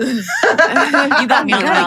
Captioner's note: laughs